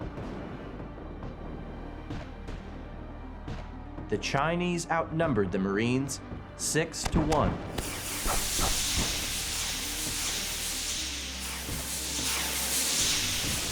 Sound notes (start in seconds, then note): 0.1 bombs exploding; 7.0 flares hissing